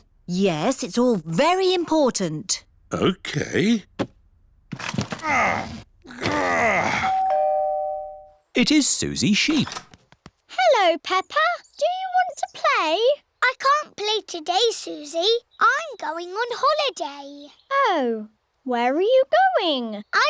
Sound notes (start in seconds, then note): 5.0 groans; 7.0 doorbell rings